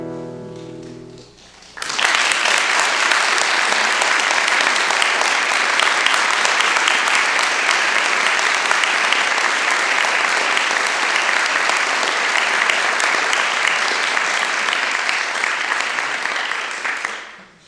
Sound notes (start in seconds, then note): 1.9 applause